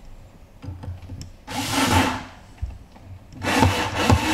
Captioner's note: screwing noise